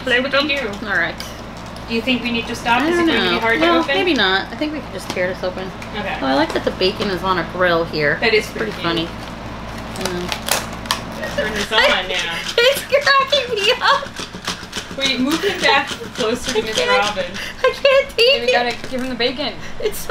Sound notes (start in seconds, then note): 10.4 laughing